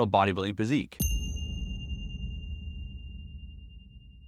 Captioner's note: bell dings